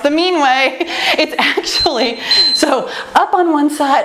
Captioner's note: timer beeps